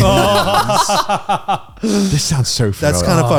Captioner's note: laughing